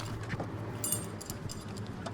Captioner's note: tools clanking